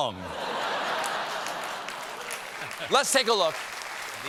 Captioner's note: laughter; applause